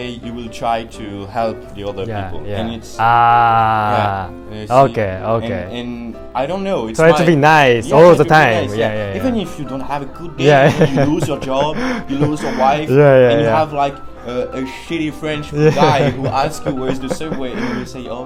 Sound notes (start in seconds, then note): 10.5 chuckles